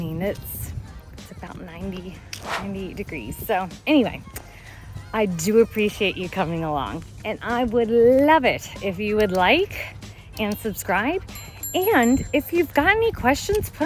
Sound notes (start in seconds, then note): 4.6 tuts